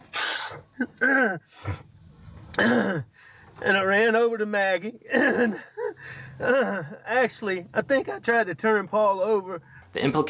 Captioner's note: crying